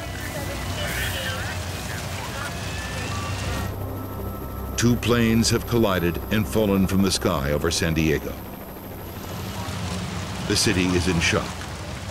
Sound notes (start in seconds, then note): 3.8 propeller whirring; 8.0 fire crackling